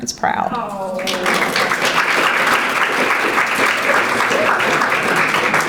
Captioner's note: audience applauding